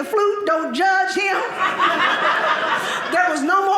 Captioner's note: audience laughing